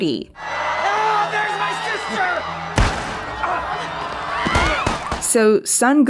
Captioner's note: people screaming; gunshots